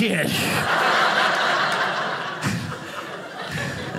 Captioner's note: audience laughing